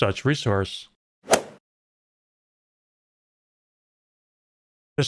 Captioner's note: golf ball hit sound